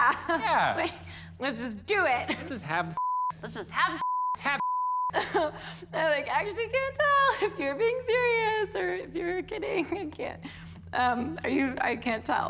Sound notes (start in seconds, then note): 5.1 chuckles